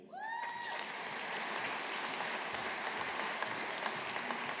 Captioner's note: audience applauding